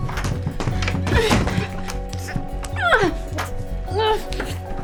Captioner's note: Ivy groaning